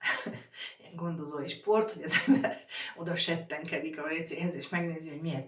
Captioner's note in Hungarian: nevetés